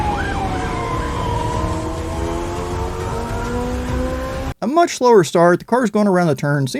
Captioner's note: sirens wailing; car engines roaring